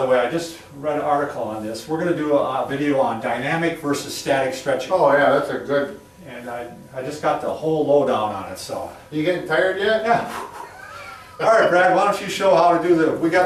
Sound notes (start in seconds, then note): 10.2 exhales quickly